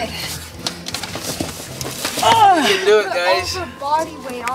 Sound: boy grunts

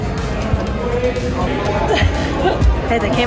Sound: grunts

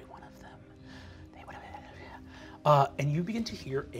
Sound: sad instrumental music; whispering creepily

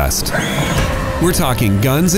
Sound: screams

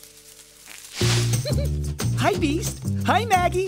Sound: giggling

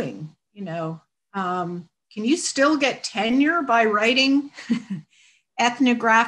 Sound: chuckles

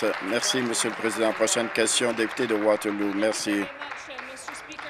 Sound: applause

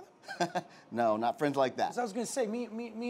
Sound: laughing

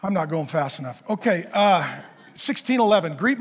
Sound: congregation laughing

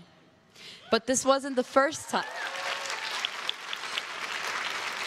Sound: crowd claps and cheers

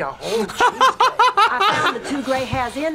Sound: both laugh

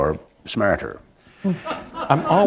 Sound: laughter

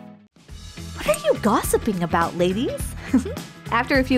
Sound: chuckle

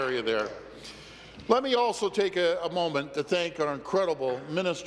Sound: applause

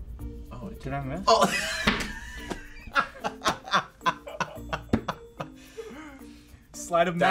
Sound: laughs

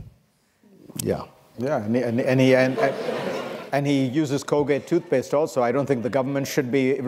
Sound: laughter

